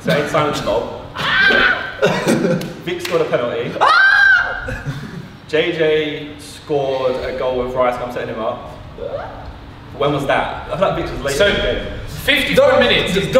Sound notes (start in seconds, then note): 3.7 Simon shouts